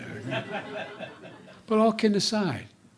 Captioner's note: laughter